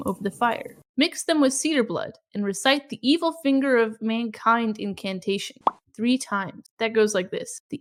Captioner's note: pop